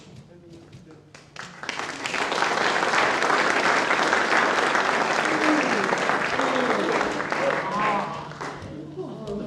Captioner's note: applause